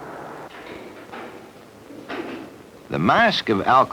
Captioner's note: cell door clanking